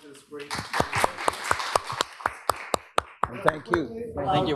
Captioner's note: applause